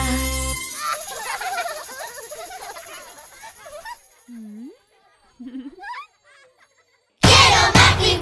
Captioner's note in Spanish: Risas